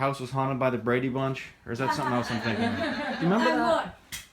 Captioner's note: laughter